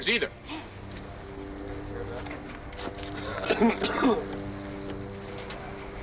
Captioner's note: coughing